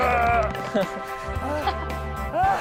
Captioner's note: argh; argh